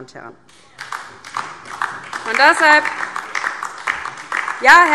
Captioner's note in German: Beifall DIE LINKE